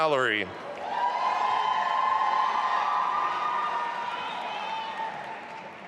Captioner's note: audience applauding and cheering